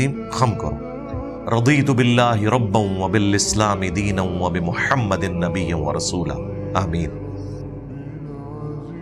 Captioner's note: Arabic